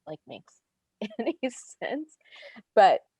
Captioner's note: laughs